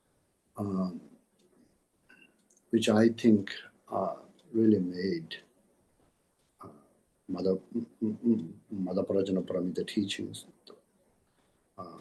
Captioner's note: tibetan